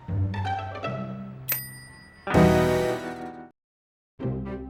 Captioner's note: bell dings